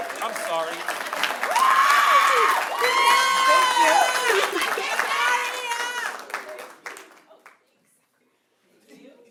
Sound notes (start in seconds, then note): 0.0 cheering; 1.3 applause; 2.0 cheering